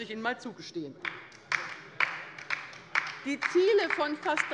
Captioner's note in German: Beifall bei der LINKEN